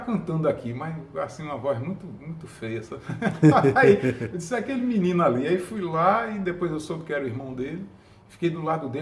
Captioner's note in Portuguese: risos